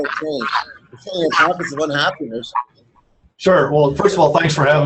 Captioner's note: murmurs